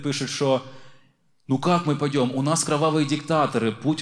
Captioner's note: with russian accent